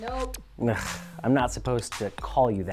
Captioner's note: sighs